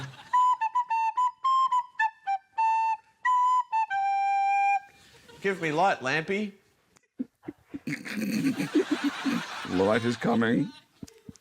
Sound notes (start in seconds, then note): 0.2 plays jaunty melody; 7.1 stifles laughter